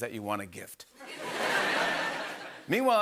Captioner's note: laughter